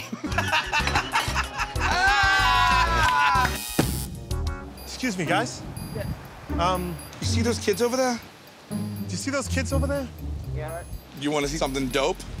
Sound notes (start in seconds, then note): 0.0 laughing; 3.5 buzzer